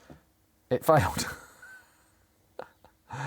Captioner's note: laughs